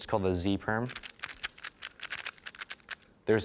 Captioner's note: cube clicking rhythmically